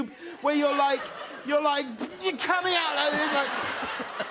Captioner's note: laughter